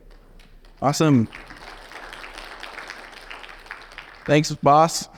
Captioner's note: audience clapping